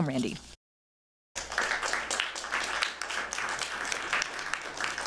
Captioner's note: applause